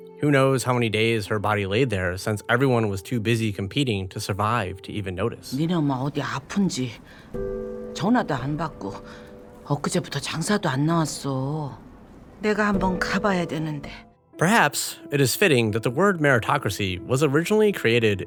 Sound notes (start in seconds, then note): 5.3 Sang-woo's mom speaking Korean